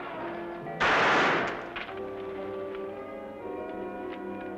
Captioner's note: gun firing